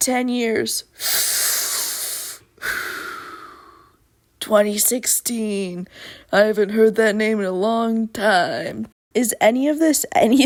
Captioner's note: old timey detective voice